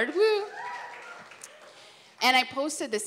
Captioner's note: cheering